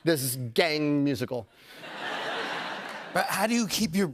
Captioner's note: laughter